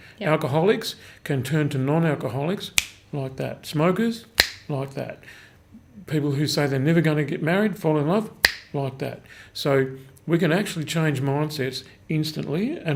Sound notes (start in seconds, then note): 4.3 snaps fingers; 8.4 snaps fingers